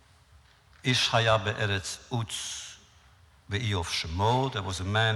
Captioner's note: foreign language